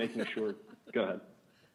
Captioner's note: laughing